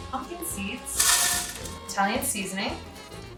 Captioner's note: seeds clatter in blender